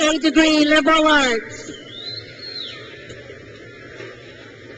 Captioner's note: crowd cheers